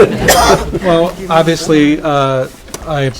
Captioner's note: laughing